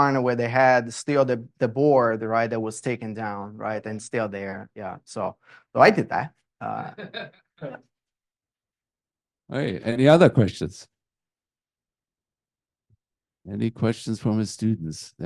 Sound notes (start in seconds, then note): 6.9 audience member chuckling